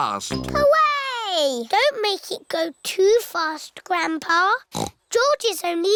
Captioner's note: snorts